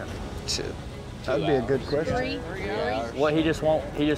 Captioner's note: overlapping chatter